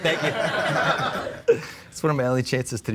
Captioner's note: all laughing